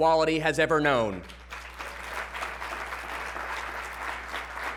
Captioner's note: applause